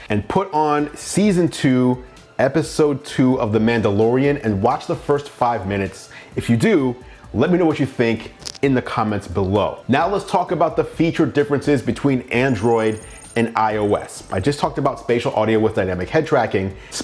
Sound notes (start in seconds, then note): 12.1 electronic trilling